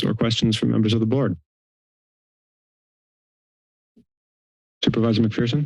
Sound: silence

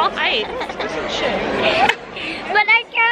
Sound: laughs

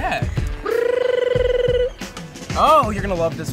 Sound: makes weird bird-like noise

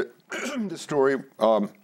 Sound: clears throat

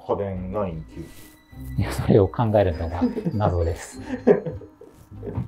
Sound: laughing

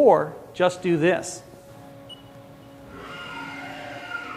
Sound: buzzing

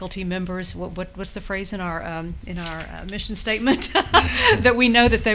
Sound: laughs

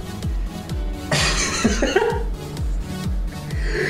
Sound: chuckles

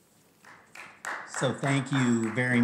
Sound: board Members applauding

